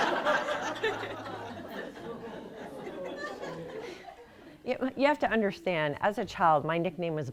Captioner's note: laughter